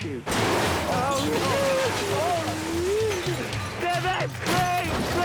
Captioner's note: metal shattering